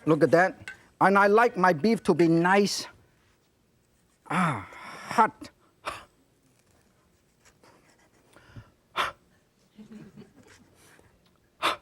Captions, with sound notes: look at that, and I like my beef to be nice (gasp) hot. (audience laughs)